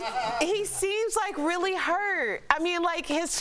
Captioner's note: laughter